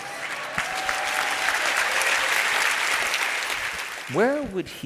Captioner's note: crowd cheers and applauds